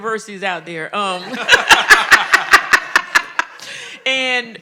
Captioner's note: all laughing